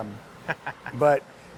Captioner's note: laughing